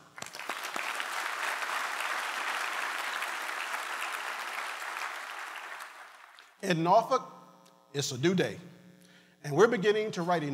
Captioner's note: applause